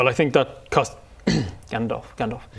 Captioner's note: ahem